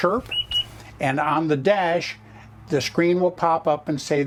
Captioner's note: chirp